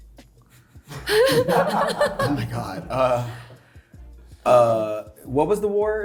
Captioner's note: cast laughing